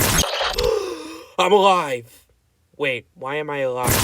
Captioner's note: gasping